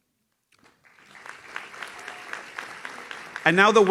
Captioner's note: audience claps